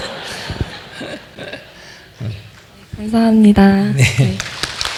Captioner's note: questioner/Audience Laughter